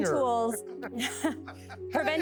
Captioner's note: laughing